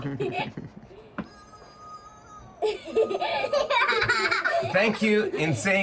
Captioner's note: laughter; laughter